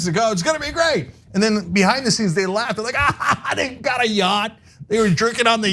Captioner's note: laugh